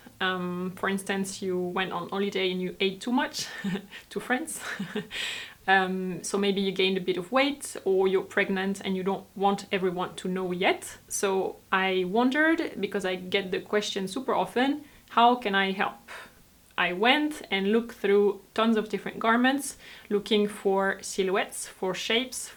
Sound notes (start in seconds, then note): 4.6 laughs